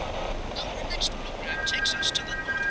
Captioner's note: radio static; radio Announcer